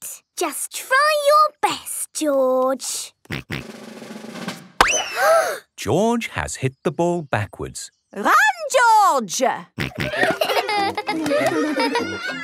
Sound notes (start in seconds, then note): 5.0 children gasp; 5.0 bang